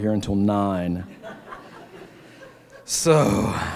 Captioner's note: laughter